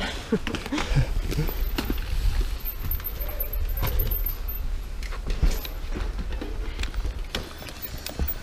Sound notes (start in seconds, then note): 0.8 group chatting; 3.2 bicycle wheels moving